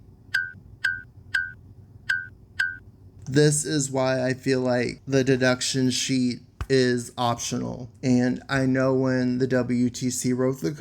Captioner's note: blink, blink, blink.. blink, blink